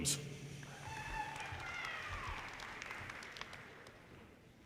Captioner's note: audience applauds